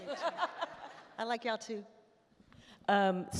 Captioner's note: all laugh